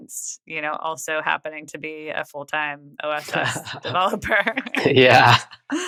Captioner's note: <Laugh>